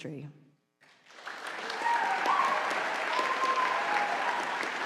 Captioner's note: audience applauding